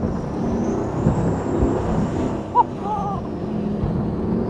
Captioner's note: engine roars